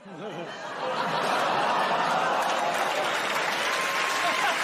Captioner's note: audience groans; cheers and applause